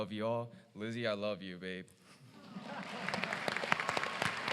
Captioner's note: applause